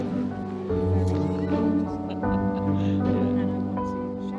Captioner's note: laughter